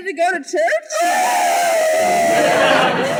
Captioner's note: uncontrollable sobbing